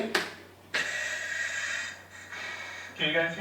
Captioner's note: respirator puffs